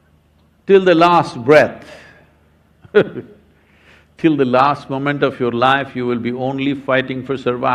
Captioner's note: laughs